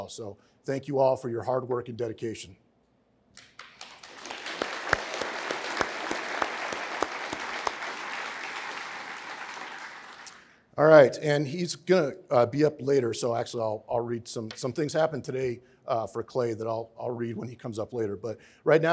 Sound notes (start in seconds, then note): 3.4 applause